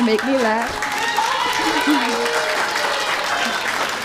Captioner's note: giggles